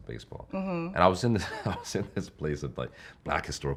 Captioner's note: laughing